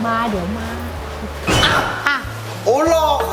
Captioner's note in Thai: ร้องตกใจ